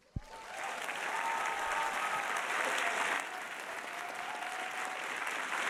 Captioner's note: audience applauding and cheering